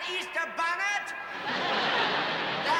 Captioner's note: laughter